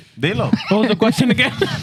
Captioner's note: speaking Spanish